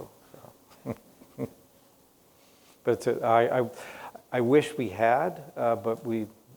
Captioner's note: laughs